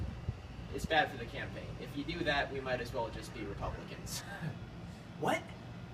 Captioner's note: laughs